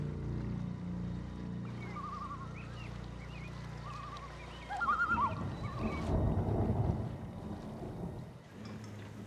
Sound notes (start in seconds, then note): 1.5 les oiseaux gazouillent; 5.0 le tonnerre gronde